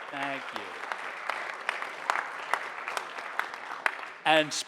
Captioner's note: audience applauding